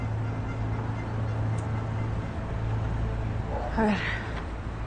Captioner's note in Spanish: Sonido de claxon